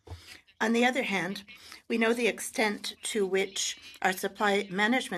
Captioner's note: speaking French